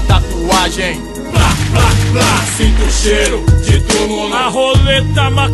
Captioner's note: sound of gunshots